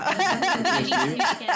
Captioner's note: laughter